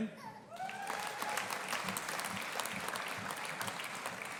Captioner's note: audience applauding